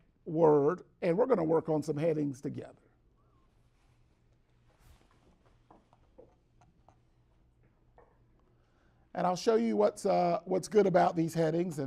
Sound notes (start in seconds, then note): 3.8 brief silence